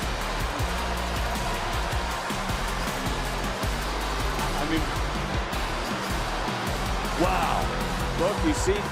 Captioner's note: crowd boos